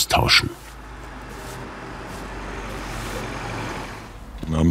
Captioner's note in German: Sanftes Surren im Hintergrund